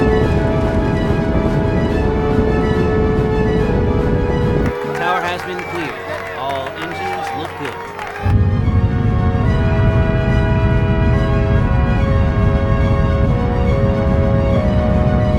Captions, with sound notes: (rocket rumbling) (inspiring music) Tower has been cleared. All engines look good. (rocket rumbling) (inspiring music)